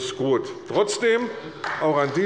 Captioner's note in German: Beifall bei der CDU